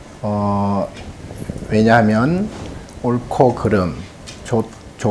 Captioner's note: speaking Korean